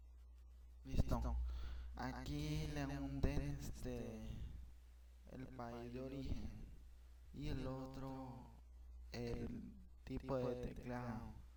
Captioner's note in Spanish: Respiración